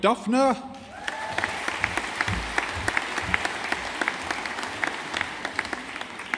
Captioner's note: audience applauding